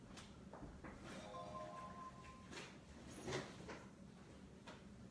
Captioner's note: phone chiming